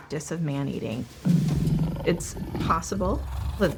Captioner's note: lion growling